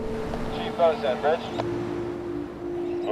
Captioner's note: radio